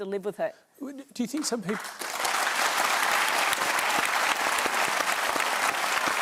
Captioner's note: applause